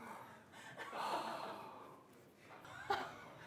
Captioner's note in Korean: 하아